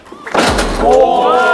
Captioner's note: pow